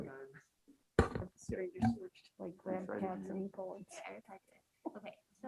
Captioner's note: members chatting